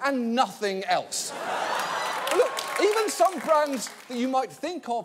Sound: audience applauding

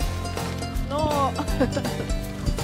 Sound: lauhgter

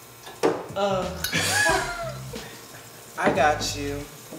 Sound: guy laughs

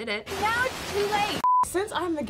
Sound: beep

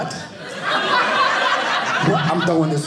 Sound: audience laughing

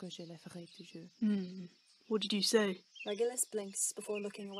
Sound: James hums

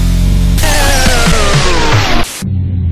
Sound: broken down sounds

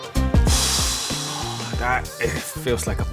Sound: exhales for days

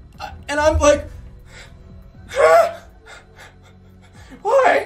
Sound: breathing, whimpers

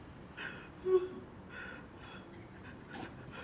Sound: sobbing

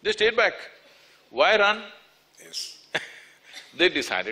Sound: laughs

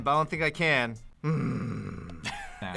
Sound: makes a angry grunt sound

